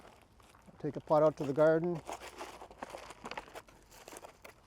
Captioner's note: plant pot shuffling